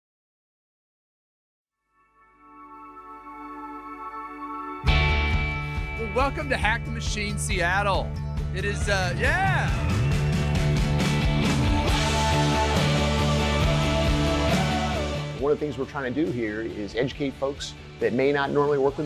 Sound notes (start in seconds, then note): 4.2 upbeat music; 8.6 crowd cheering; 11.3 rhythmic music